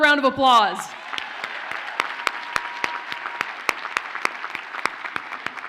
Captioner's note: audience cheers and applauds